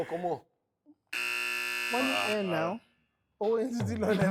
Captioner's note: buzzer pressed